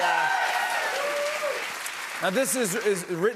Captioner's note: cheers and applause